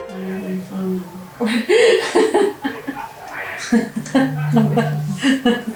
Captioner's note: laughing